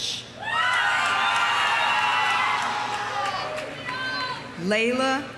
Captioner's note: audience cheering; audience applauding